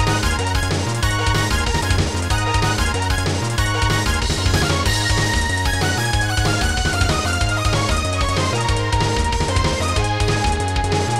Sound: game audio

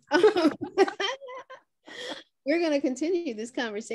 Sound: both laugh

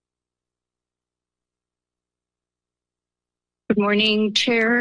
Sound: silence

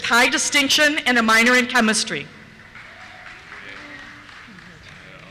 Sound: cheers

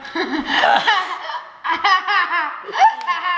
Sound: laughing

